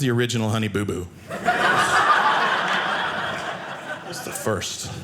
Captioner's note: audience laughing